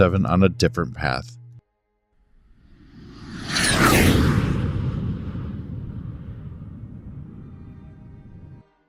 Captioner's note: jet Whoosh